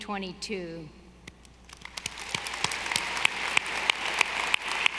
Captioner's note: audience applauding